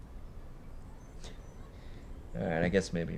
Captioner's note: scoffs